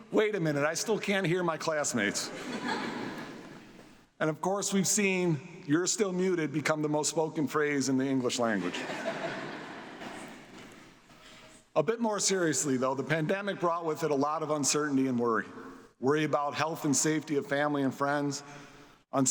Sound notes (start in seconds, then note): 2.1 audience laughs; 8.6 audience laughs